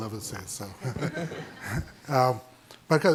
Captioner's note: audience laughing